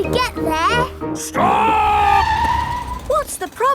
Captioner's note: tires screeching